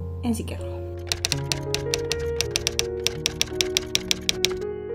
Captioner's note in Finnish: kirjoituskoneen naputusta